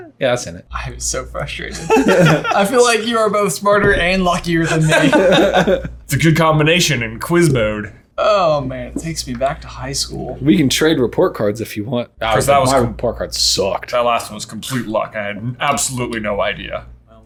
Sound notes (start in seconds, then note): 1.6 laughing; 4.6 laughing